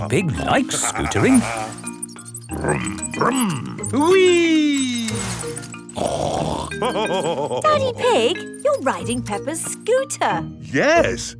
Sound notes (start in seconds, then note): 5.9 snorts and laughs